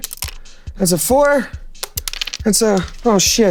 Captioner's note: die rolling